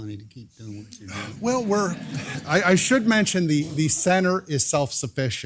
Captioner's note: laugh